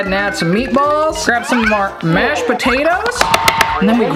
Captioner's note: plate taps